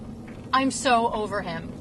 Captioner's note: none